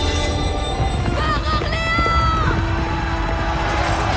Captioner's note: triumphant music playing; joan of arc yells